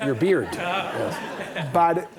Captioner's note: audience laughing